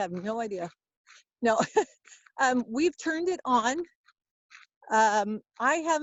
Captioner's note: laughs